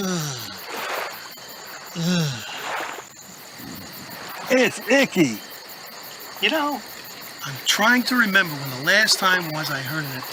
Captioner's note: voice crack